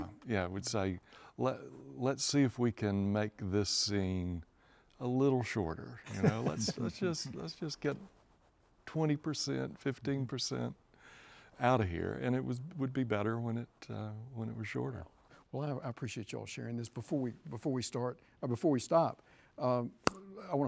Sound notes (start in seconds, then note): 6.1 chuckles